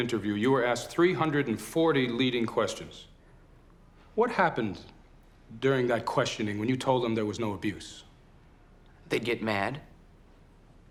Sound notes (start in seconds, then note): none